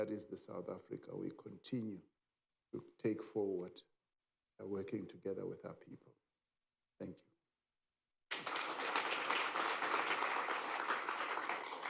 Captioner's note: applause